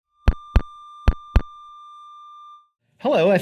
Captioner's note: feedback ringing